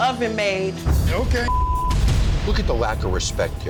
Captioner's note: beep